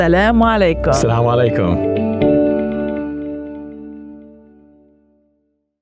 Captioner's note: speaks foreign language